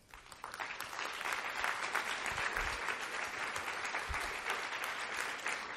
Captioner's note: applause